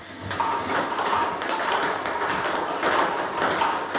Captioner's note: ball ping pong hitting